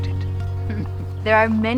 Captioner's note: laughter